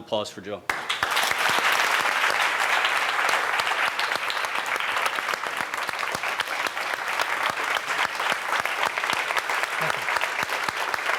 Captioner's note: audience applauds